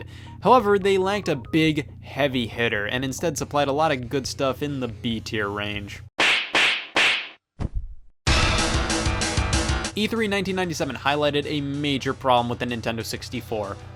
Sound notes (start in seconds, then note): 6.2 sharp smacks; 8.4 fast music